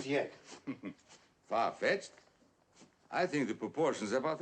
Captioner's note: chuckles